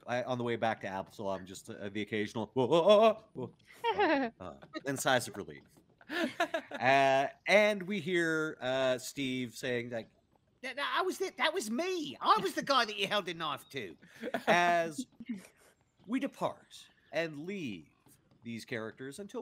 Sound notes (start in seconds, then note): 2.3 whimpering; 3.4 sighing